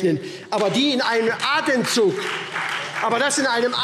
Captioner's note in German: Beifall SPD und Freie Demokraten